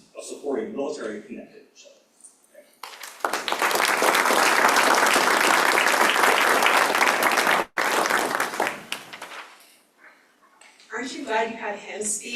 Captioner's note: applause